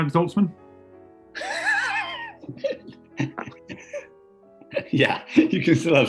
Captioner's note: sniggering